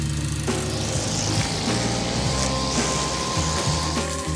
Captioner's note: trimmer whirring; water splashing